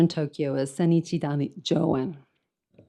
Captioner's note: speaks in foreign language